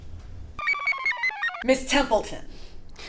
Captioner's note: computer chirps